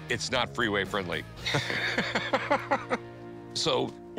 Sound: laughter

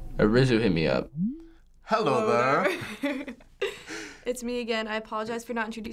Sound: giggles

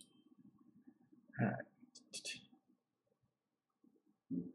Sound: humming

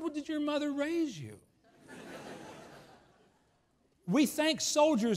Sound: laughs

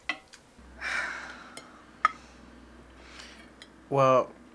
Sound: Timi sighing

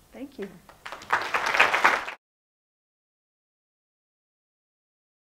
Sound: applause

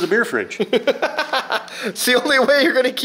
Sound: laughs

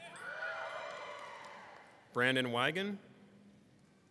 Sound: people screaming

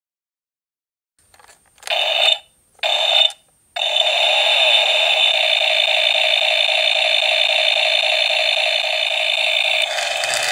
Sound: sound of toy chainsaw

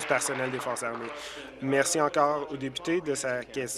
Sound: applause

